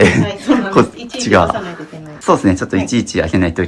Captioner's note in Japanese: 咳払い